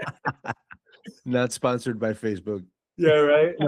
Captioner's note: laughing